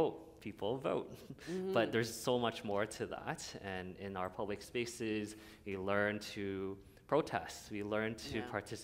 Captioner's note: chuckle